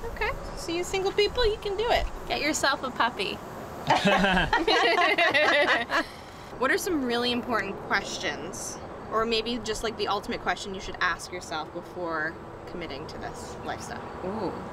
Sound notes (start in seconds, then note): 3.8 laughter